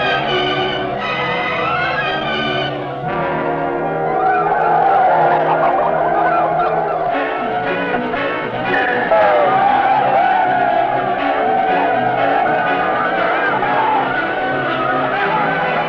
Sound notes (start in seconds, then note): 1.6 dramatic music; 10.3 men shouting